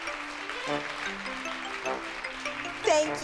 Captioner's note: applause